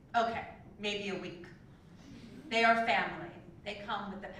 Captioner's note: laugh